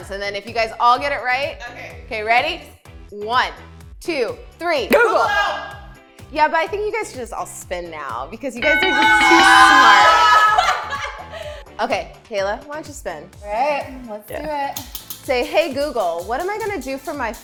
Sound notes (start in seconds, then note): 10.2 laughter; 10.9 bell rings